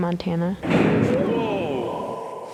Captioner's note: banging